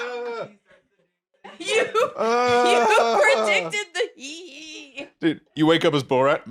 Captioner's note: laughing